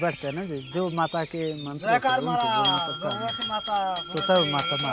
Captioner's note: bell jingling